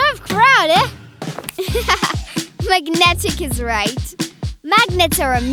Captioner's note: giggling